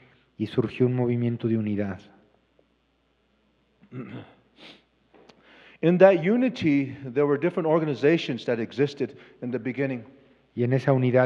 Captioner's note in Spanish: Expositor habla en inglés